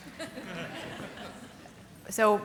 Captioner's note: audience laughing